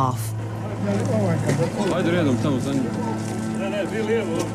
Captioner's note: man speaking Serbo-Croatian